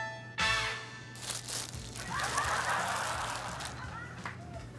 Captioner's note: laughter